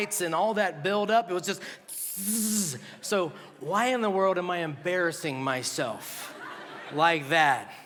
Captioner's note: makes electrical buzzing sound; laughter